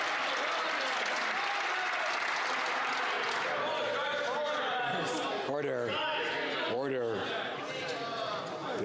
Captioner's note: some Applause